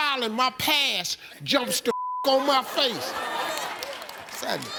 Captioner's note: beep